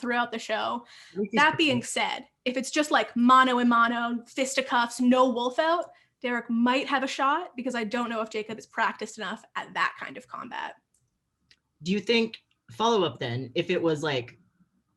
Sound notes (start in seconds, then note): none